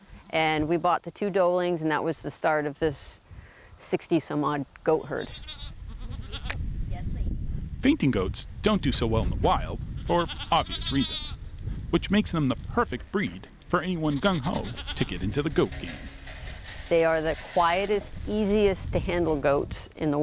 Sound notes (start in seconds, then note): 5.2 goat bleats